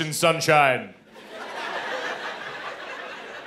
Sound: laughter

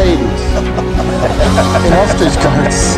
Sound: laughter, general cheer

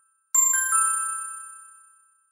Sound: ding!

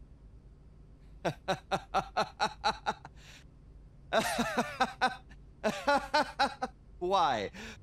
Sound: laughing

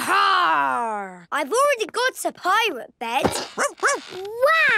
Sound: barking

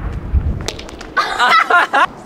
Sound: toy falls onto concrete; laughs

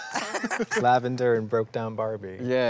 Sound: laughs

